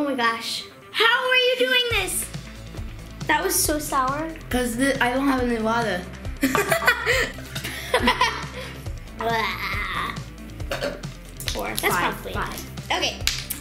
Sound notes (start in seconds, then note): 6.4 laughs